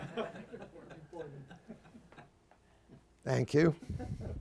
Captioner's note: laughter